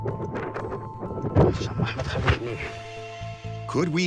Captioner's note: low whispering